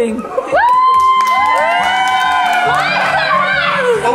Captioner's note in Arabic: هتافات العائلة